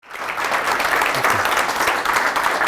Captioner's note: applause